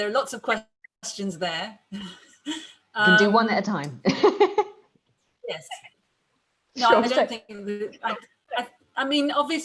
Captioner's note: laughs